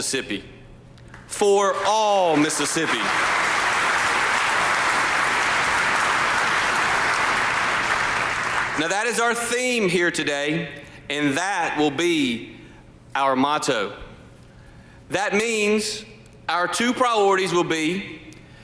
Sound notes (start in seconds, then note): 5.7 applause